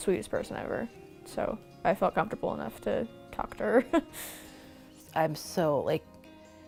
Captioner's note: laughing